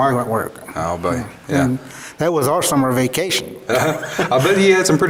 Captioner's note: both laugh